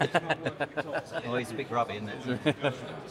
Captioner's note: laughing